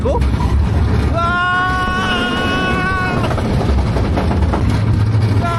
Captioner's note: screaming without holding back because I'm alone